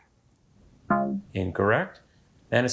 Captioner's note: womp chimes